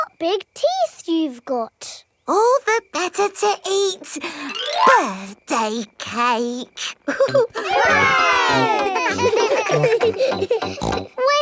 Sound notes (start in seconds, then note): 6.9 laughing; 7.0 chuckles